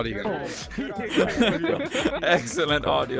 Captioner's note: laughter